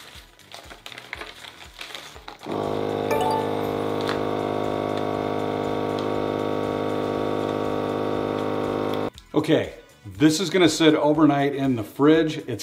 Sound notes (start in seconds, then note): 3.4 vacuum sealer whirring